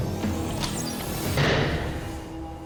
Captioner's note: rock music; arrow whistles, strikes